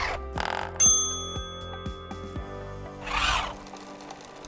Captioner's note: mail chiming; sewing machine grinding